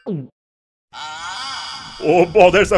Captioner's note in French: Gémissement